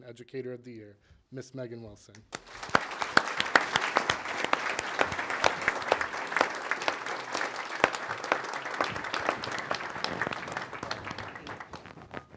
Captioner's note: applause